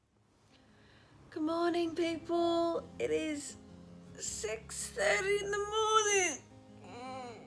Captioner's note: groans